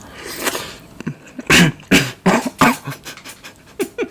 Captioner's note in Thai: สำลักแล้ววว